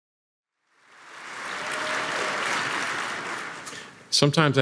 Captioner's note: applause